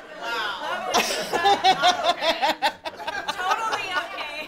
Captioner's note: audience laughing; laughing